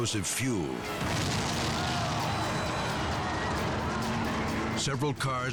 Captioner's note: explosion booming; people exclaiming